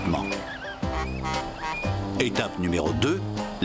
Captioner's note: honking